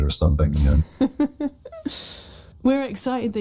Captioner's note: laughs